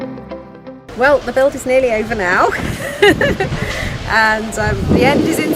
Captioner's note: laughs